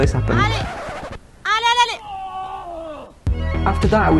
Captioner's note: screaming